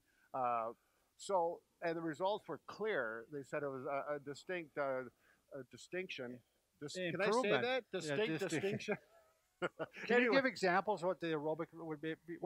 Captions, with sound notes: And the results were clear. They said it was a distinct distinction. Can I say that? Distinct distinction? (laughing) - Can you give examples what the aerobic would be?